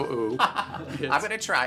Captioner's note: laughter